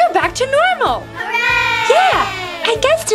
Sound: crowd

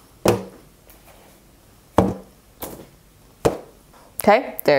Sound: eggplant thudding

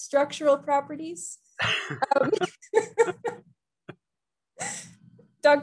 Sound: both laugh

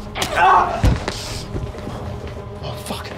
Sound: cries out

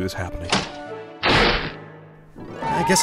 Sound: crash

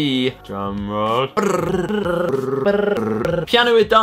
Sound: tongued drumroll

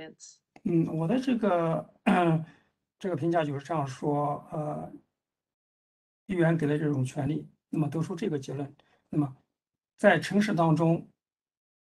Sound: speaks in Mandarin

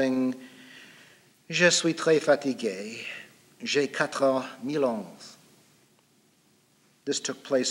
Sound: speaking in French

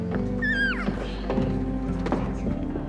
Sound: baby coos

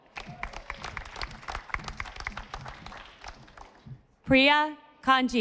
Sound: audience applauding

